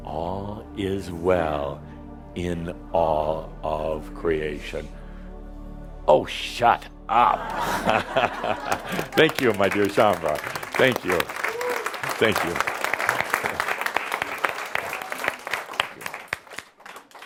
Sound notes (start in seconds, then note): 7.2 laughter; 13.0 audience applause